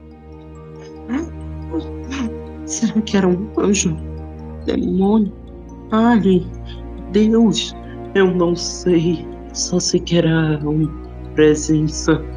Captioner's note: sobbing